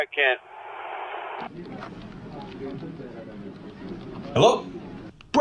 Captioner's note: background office noise